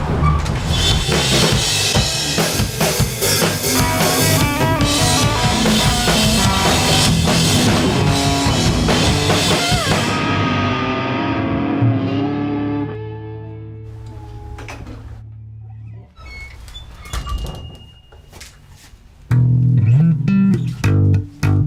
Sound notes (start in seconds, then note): 13.3 door squeaks and shuts; 13.3 music stops